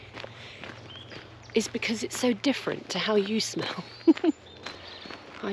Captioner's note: giggle